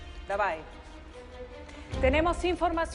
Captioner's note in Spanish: Habla en otro idioma